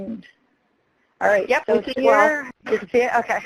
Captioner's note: voiceover